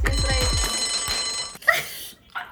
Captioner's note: bell dinging